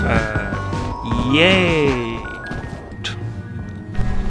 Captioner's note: sarcastic yay